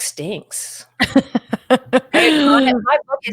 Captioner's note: chuckles